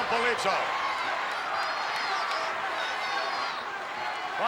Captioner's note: crowd yelling